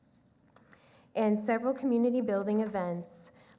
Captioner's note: none